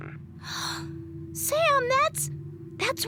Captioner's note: gasp